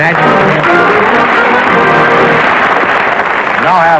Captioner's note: applause